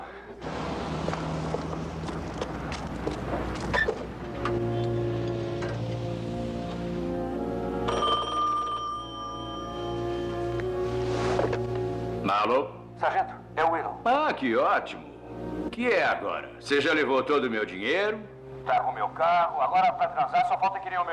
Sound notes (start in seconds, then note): 7.8 rings